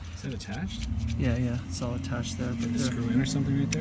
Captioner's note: murmurs